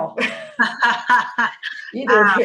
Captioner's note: laughter